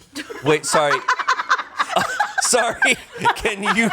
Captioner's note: crew laughs